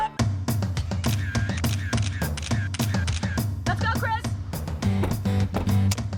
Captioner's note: camera shutter sounds